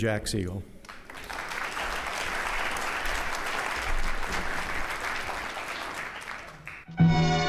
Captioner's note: applause